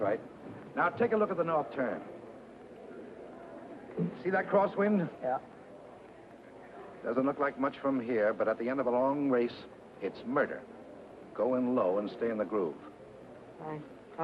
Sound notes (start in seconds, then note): none